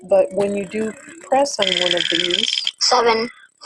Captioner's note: wheel clicking; voiceover